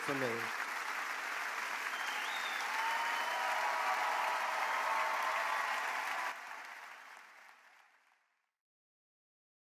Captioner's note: audience applause